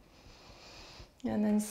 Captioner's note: breaths